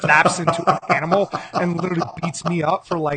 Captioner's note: laughing